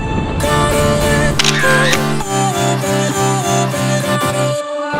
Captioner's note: camera shutter clicks